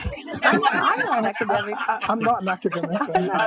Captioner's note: group laughing